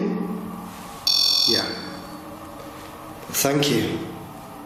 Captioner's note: REM-POD beeping